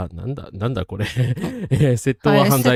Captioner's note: laughter